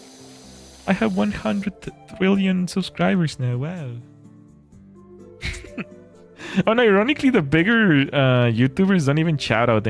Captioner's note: laughter